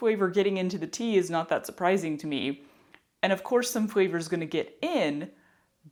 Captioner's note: none